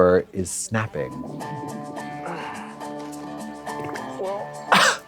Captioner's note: groans and flatulates